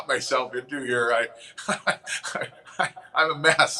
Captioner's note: laughing